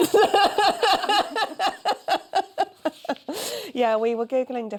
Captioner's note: laughter